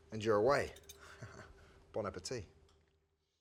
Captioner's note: chuckles